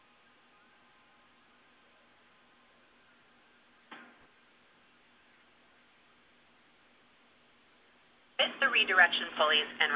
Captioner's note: silence